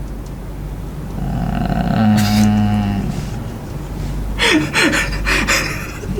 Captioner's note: moans; more moaning